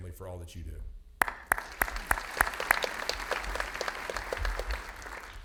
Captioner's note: audience applauding